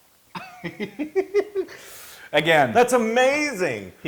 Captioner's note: laugh